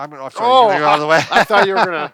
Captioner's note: laughs